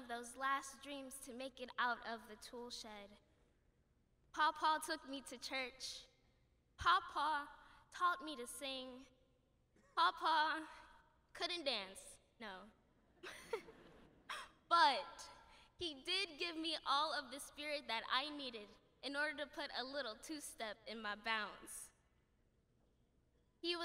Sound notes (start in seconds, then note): 13.2 laughter